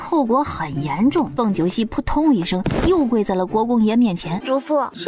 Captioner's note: thud